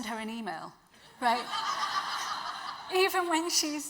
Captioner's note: audience laughs